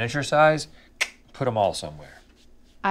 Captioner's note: clicks tongue